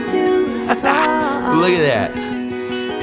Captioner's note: laughs